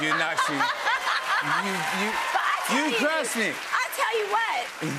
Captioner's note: cheers and applause